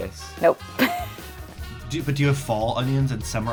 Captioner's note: laughs